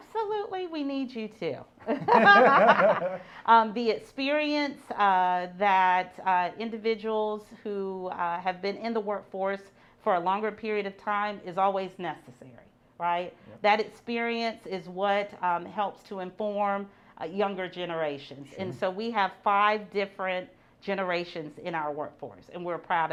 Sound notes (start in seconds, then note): 1.9 laughs